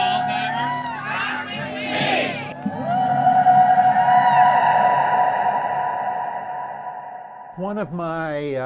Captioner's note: all cheering